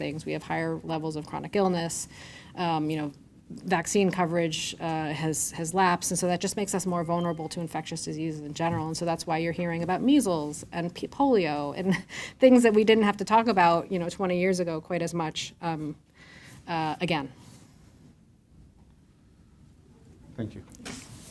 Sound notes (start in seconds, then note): 7.1 device pinging; 12.0 chuckles